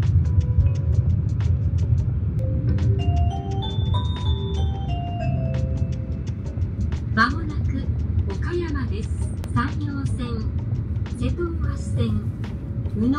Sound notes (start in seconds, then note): 2.4 train notification ringing; 7.4 announcer speaking in Japanese